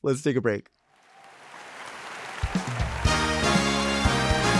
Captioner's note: audience cheering; lively music